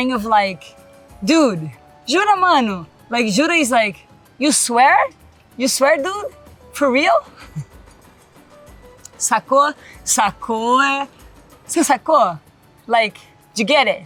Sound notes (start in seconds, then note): 1.0 speaks Portuguese; 3.4 speaks Portuguese; 8.9 speaks Portuguese